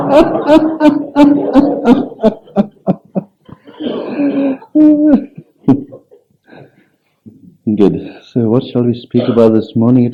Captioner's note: laughs